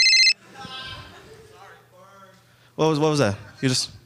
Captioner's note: phone ringing; audience chuckling